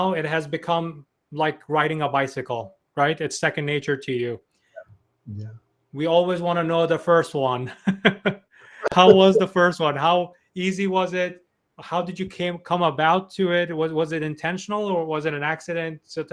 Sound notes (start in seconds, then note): 8.7 chuckles